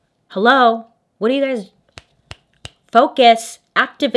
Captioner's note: snaps fingers